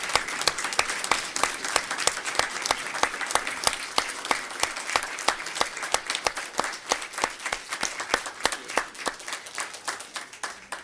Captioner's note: applause